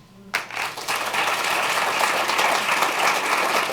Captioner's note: applause